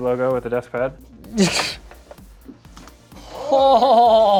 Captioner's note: laughing